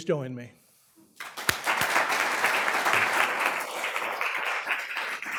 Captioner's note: applause